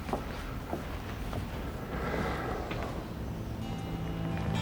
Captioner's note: sighs